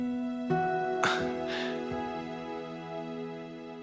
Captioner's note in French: glousse nerveusement